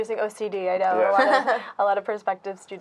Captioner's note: laughing